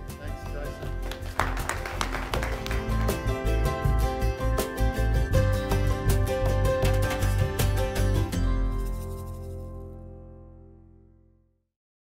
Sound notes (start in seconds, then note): 0.1 applause; 3.8 upbeat music